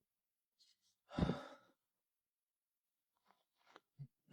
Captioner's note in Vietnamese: thở dài